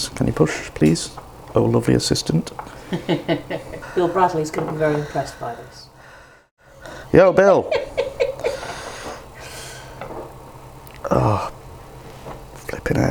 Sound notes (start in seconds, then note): 7.4 cackles